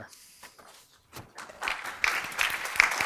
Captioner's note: applause